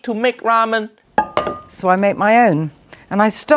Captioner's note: pot clinking